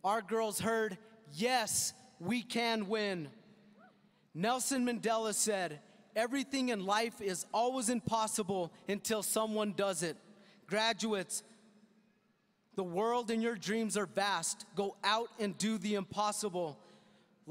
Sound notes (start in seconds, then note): none